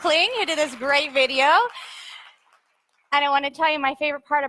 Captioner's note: audience applauds